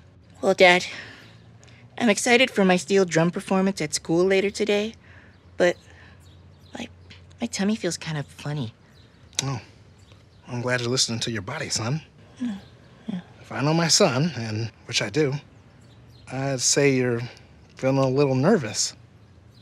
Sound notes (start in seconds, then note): 11.9 quietly